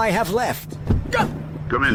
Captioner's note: yelping in pain